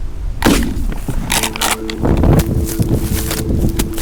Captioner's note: gun roars